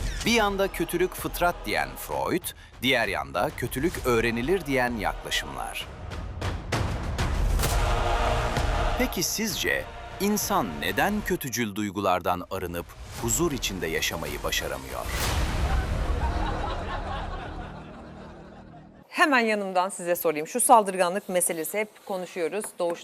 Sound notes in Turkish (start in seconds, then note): 15.6 kahkaha